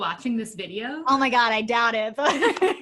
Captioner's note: laughter